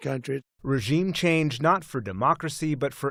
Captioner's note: voice-over